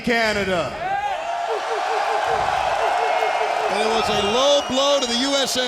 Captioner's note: audience cheering